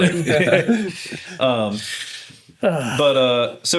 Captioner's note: laughter